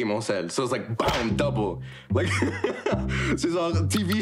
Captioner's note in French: rire